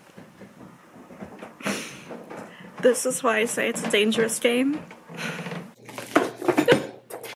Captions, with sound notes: [sniff] this is why I say it's a dangerous game [Book falls] [midwestern squeak]